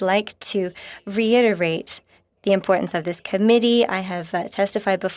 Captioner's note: speaking French